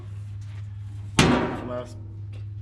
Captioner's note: metal clanging